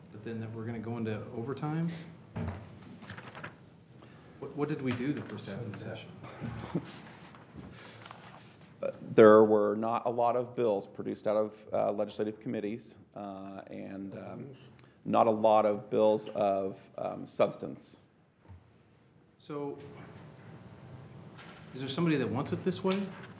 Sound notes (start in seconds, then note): 6.3 laughing